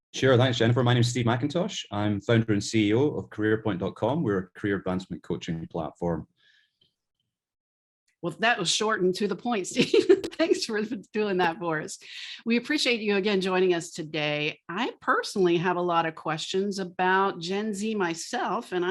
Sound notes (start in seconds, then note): 9.7 laughs